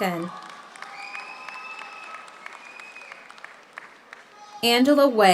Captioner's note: audience applauds; audience cheers